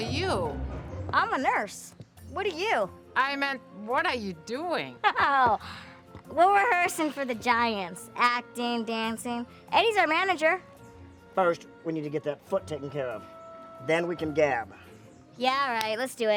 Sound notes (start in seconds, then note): 5.0 laughs